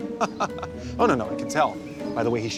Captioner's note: laughs